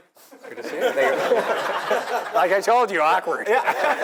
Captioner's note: laugh